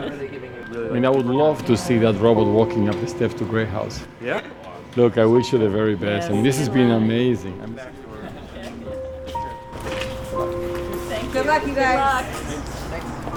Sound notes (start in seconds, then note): 8.0 laughing and goodbyes